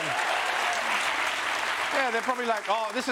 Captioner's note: british accent